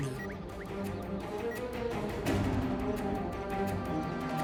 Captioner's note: slow beeping